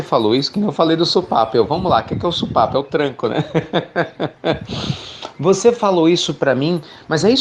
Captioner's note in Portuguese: Risos